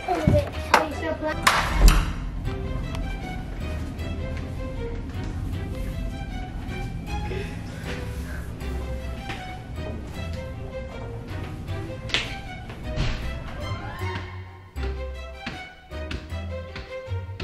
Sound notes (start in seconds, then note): 1.4 door opens; 5.4 mischievous music; 12.9 slamming; 15.3 stomping on stairs